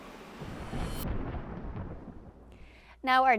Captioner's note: thunder roaring